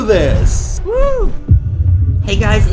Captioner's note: air whooshing